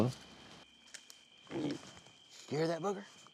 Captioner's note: snorting